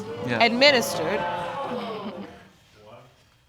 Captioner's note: audience exclaims